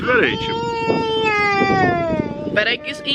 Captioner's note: twins babble